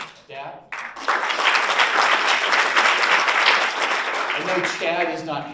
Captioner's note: audience applauds